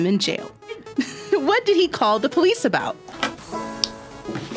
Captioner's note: laughs; guitar strums